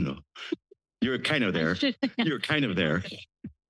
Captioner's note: laughter